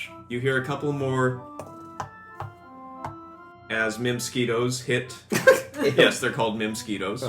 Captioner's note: tap tap tap